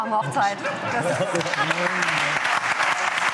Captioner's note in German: Lachen, Applaus